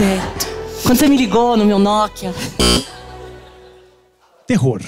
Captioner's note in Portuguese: campainha